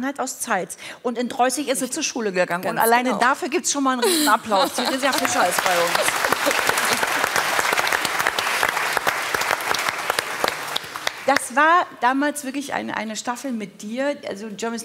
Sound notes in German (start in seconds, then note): 4.8 Applaus